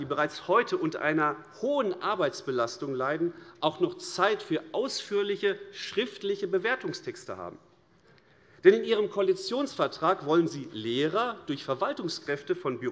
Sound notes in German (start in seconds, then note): none